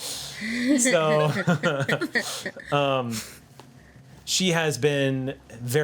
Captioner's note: group laughs